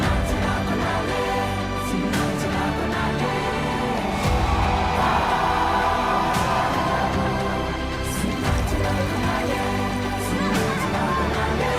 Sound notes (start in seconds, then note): 0.1 powerful African music; 3.3 people cheering; 8.2 powerful African music